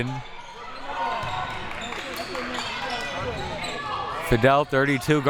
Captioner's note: audience chattering and yelling